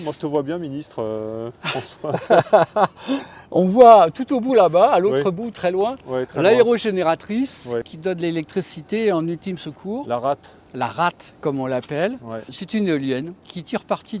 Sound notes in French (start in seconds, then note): 1.6 rires